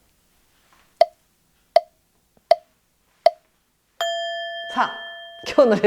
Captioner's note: silent